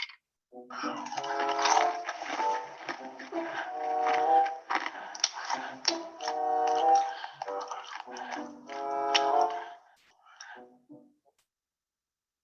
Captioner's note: crunching sounds